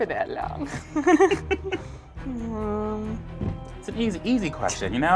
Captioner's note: laughs